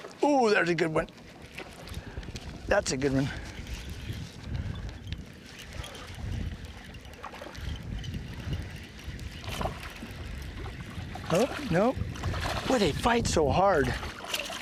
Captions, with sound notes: oh there's a good one that's a good one [splashing] boy they fight so hard